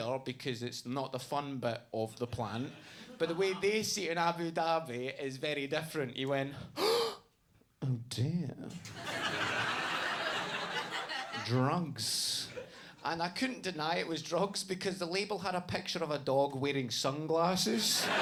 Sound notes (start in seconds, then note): 6.8 gasps; 8.8 audience laughs; 17.7 audience laughs